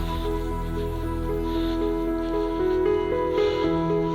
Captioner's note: heavy breathing